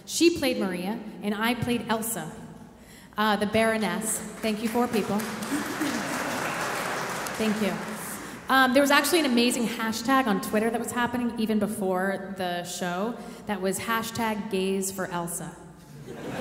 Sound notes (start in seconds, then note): 4.6 audience applauding